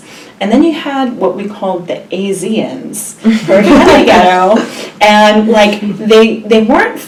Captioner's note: all laugh